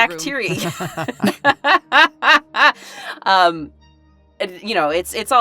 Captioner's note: laughs